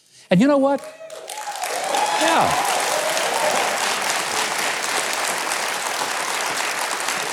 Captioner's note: audience applauds